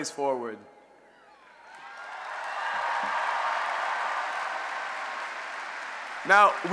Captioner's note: cheering